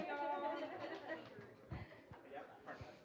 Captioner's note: indistinct chatter